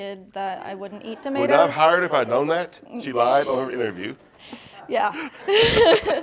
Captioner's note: laughter